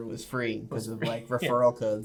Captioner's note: laughs